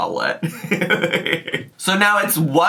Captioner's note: laughs